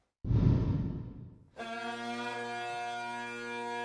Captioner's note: air whooshes; bagpipe music